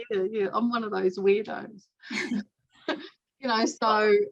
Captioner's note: chuckles